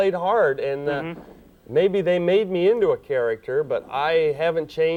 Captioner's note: none